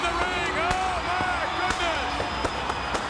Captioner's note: pyro bangs; audience cheers